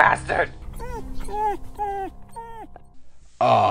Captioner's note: whines